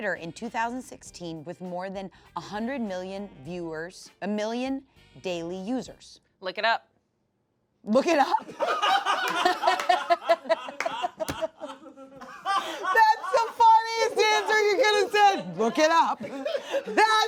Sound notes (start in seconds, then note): 8.9 laughs; 9.6 crew laughs